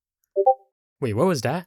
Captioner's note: Inconspicuous Discord ping